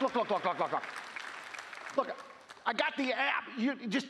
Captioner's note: applause